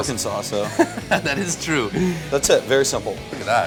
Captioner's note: laughing